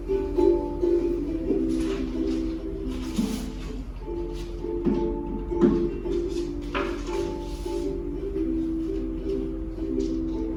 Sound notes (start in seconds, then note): 0.8 rustling; 3.7 footsteps